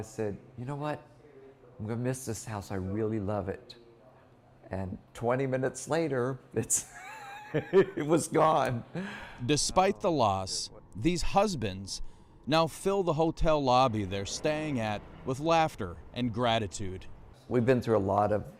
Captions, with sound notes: boxes for the container and I was walking upstairs and I told Bill, 'You know what? ' I'm going to miss this house, I really love it and 20 minutes later (laughter) it was gone. " DESPITE THE LOSS, THESE HUSBANDS NOW FILL THE HOTEL LOBBY THEY'RE STAYING AT WITH